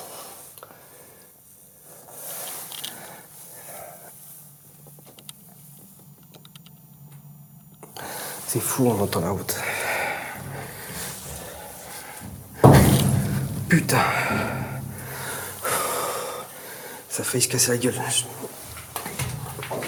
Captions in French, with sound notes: C'est fou, on ne va pas vers l'autre. *Bong* Putain ! ça a failli se casser la gueule !